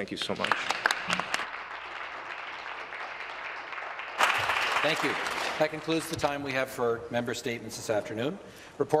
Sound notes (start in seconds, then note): 4.1 applause